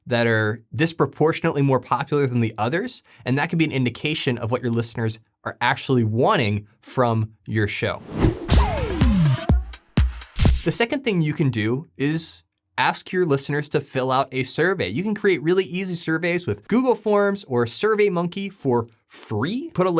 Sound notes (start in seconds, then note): 8.0 graphic whooshing; 8.0 upbeat music